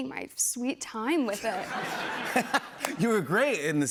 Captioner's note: laughter